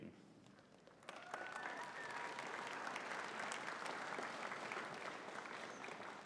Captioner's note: audience cheering and clapping